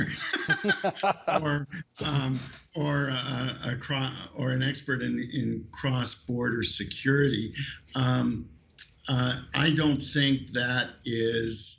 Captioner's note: laughter